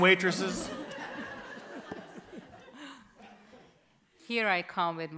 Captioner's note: audience laughs